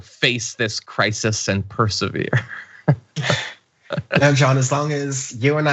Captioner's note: laugh